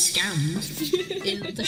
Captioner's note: laughs